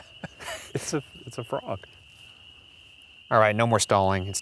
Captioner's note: laughs